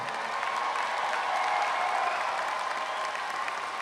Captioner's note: graduates applaud